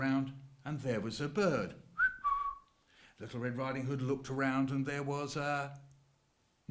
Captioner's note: bird whistle noise